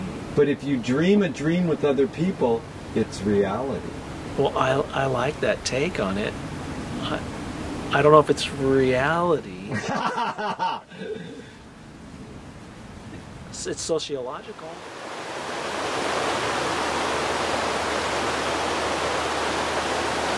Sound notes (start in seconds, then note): 9.7 laughs loudly; 14.6 water gushing loudly